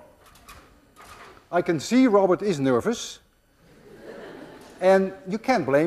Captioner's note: class laughs